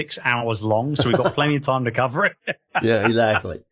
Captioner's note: laughing